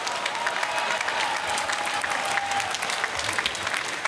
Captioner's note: applause